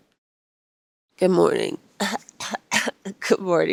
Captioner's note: clears throat